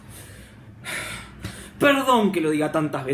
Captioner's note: breathes